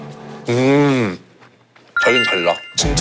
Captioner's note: mooing sounds